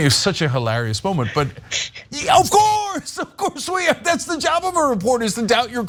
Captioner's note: laugh